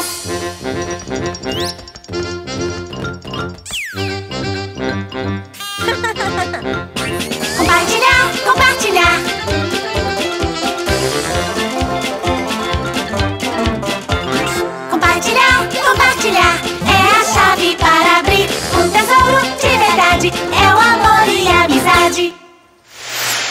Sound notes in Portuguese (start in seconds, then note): 0.2 Música Alegre; 5.8 Risos; 9.4 Música Alegre